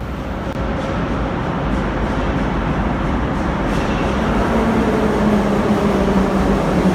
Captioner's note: arrival of train at the station